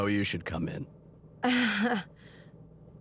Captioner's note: laughs nervously